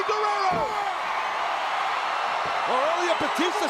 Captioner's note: crowd cheering